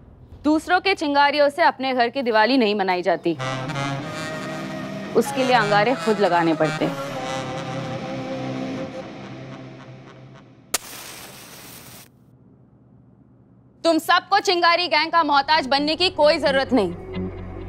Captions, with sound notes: You can't light your lantern, with someone else's spark. You have to use your own. [matchstick lighting] You don't have to become indigent of the Chingaari Gang.